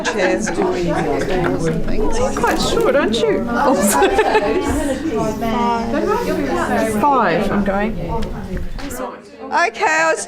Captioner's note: audience chatter